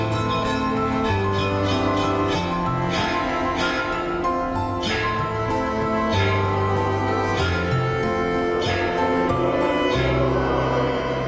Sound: bell rings

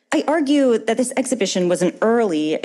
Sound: none

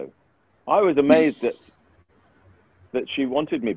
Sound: Nicole laughs

